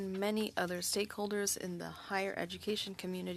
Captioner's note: speaking French